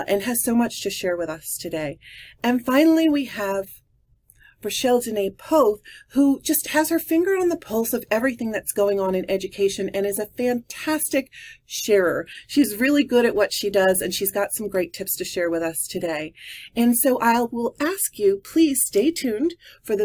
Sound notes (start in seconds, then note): none